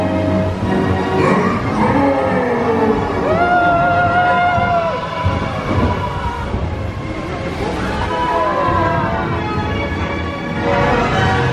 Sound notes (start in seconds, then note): 1.1 ice monster growls; 6.7 bright music continues